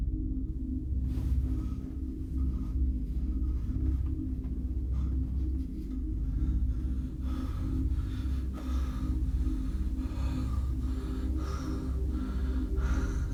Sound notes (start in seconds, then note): 7.1 Larry panting